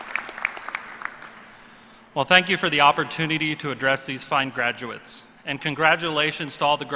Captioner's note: applause